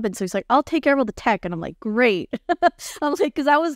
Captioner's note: laughing